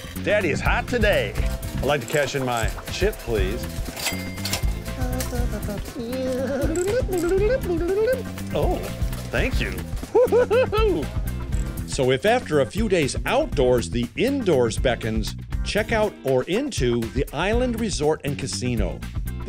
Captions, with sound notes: That is hot today. I'd like to cash in my chip, please. (animated sounds) Oh, thank you. (laughs) So if after a few days outdoors, the indoors beckons checkout or into the Island Resort and Casino.